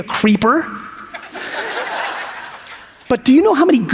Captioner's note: audience laughs